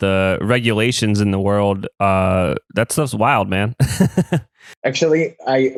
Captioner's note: laughs